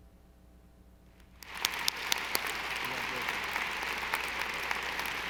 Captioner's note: audience applauding